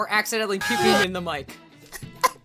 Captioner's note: puking Noises